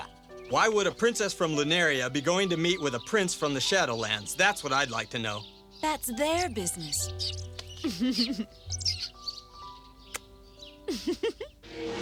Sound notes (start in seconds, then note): 7.7 chittering; 7.8 giggles; 10.8 giggles